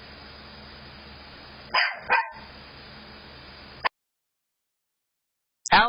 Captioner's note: Ella continues barking